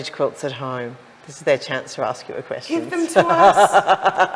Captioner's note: laughs